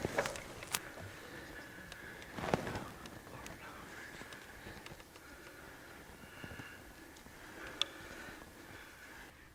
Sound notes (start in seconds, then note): 3.6 whispering